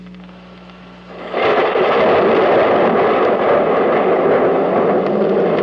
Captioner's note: explosions